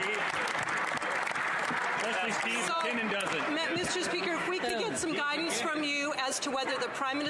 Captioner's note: some Applause